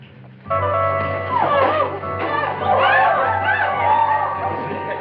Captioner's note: gasps and screams